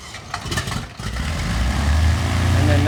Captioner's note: engine starts